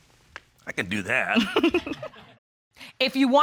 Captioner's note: giggles